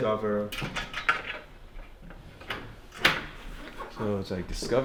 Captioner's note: board clicking gently